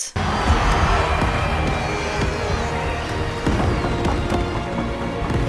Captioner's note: firework sound